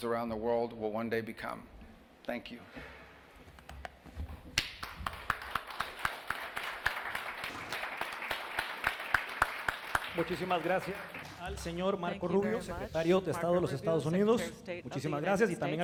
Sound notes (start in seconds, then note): 4.6 applause